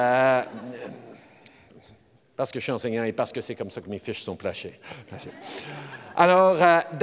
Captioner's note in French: Rires